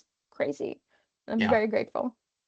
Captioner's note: chuckling